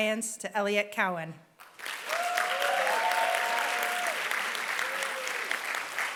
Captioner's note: applause